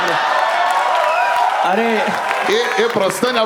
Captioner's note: crowd applauding